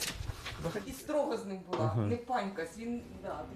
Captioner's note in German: sie spricht ukrainisch